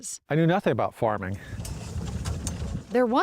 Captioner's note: trunk engine trundling